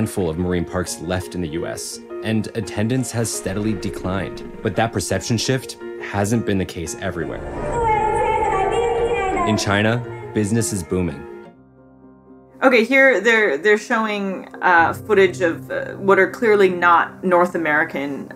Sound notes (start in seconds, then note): 7.6 clip in video - trainer speaking Chinese